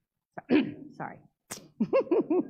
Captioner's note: cough